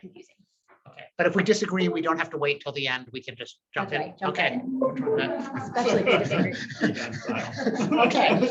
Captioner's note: laughter